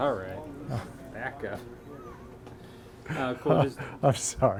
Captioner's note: laughing